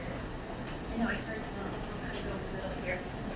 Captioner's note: speaking away from mic